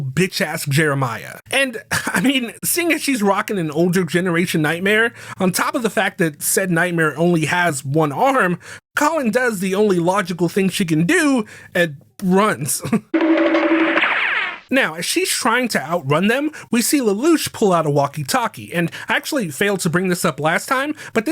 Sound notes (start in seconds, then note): 13.2 hanna barbera sound | alt